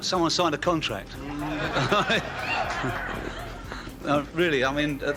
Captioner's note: audience laughs